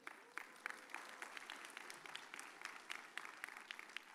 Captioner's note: audience cheers